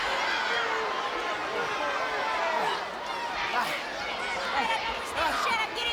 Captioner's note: people chattering indistinctly